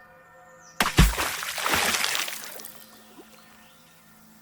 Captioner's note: water sloshing